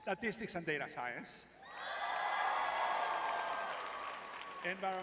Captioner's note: crowd cheering